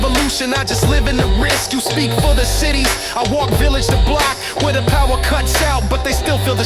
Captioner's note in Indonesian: glitch FX